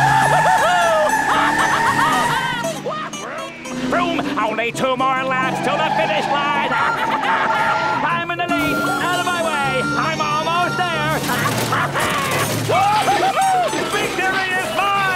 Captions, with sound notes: [laughing] Vroom! Vroom! Only two more laps to the finish line! [laughing] I'm in the lead! Out of my way! I'm almost there! [laughing] Whoo-hoo-hoo! Victory is mine!